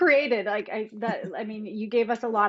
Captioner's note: chuckles